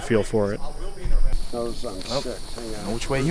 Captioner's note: team member chattering